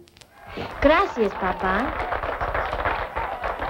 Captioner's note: speaking spanish; applause